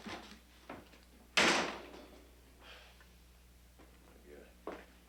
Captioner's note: door slamming